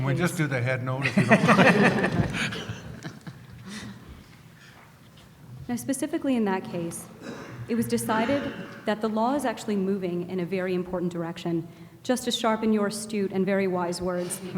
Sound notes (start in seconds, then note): 0.3 voiceover; 1.0 laughter